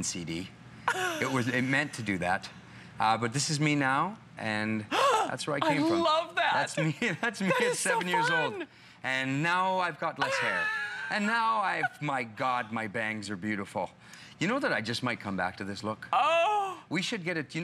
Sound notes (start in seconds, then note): 6.8 laughter